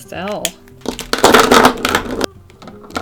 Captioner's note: markers clattering on desk